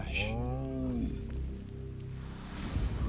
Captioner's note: sloth groaning